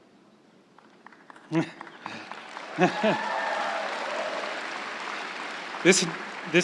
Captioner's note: crowd cheering and applauding